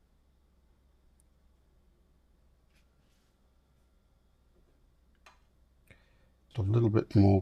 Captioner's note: silence